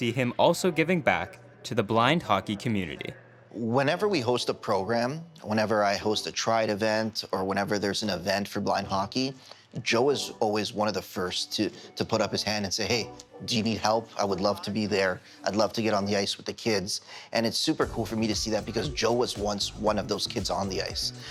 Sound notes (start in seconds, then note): none